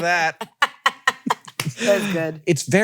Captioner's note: laughs